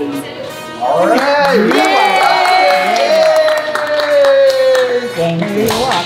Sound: crowd cheering

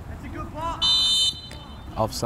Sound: whistle blows

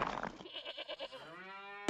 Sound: bleating; mooing

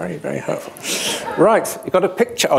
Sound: laughter

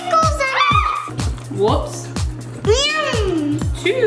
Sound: shrieks

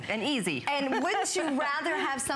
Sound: laughter

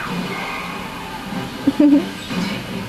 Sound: laughs

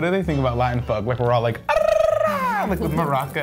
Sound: trilling his tongue

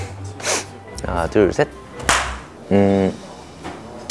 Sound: clap

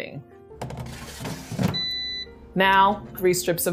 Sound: air fryer beeps

